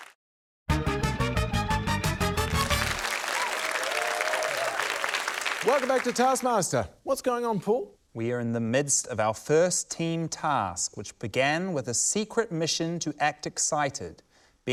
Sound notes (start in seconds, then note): 0.7 upbeat fanfare; 3.9 applause, whooping